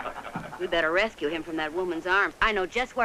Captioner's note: laughing